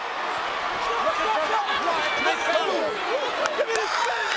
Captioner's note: audience shouting